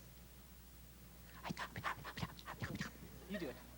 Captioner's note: whispers indistinctly